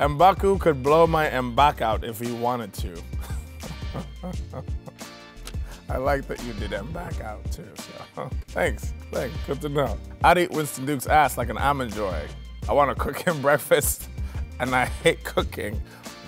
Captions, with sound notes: "M'Baku could blow my M'Back out if he wanted to." (laughing) I like that you did M'Back out too, so. Thanks, thanks, good to know. "I'd eat Winston Duke's ass like an almond joy. I want to cook him breakfast, and I hate cooking."